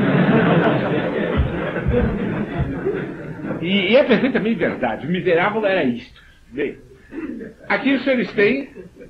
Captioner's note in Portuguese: risos